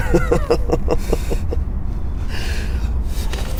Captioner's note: laughing